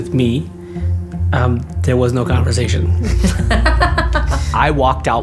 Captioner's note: laughter